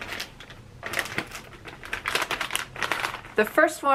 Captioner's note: bag crunching